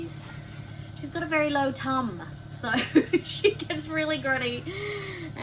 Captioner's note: laughing